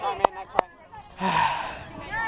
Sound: le sigh

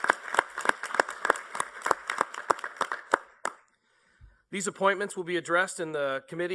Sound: applause

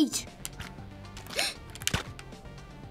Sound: sigh of Fear

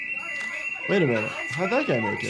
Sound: alarm blares

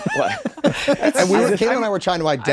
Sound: everyone laughs

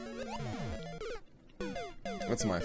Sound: death audio

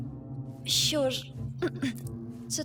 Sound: clears throat

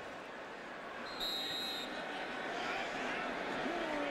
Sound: whistle

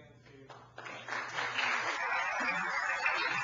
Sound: applause

